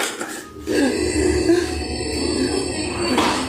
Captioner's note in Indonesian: berdehem